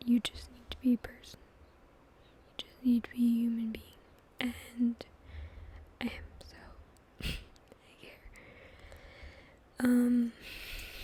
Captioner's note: clears throat